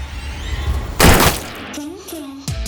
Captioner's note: gun fires